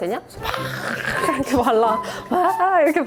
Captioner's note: frenzied massage rolling